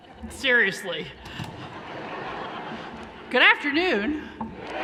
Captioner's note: laughing; cheering